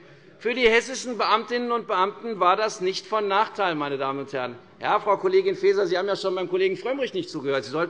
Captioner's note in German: none